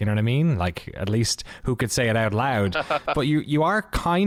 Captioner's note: laughter